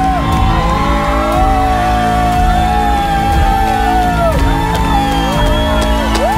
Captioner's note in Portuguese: grita; todos gritam e comemoram; grita e comemora